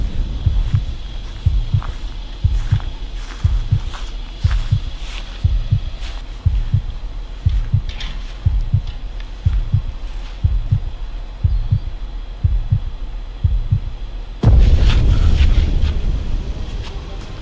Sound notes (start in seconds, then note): 0.2 heartbeat pounding; 4.2 footsteps crunching; 8.3 heartbeat pounding; 14.2 suspenseful music